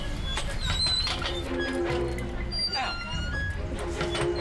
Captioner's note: suspenseful music; swing squeaking